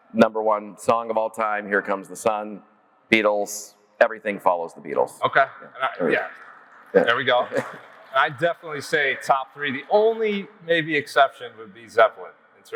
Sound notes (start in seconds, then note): 6.2 audience clapping